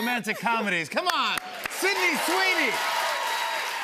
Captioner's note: cheers and applause